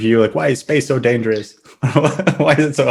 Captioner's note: laughs